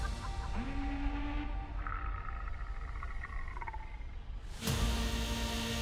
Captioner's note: astronaut laughing; alarm buzzing; dinosaur growling; bike humming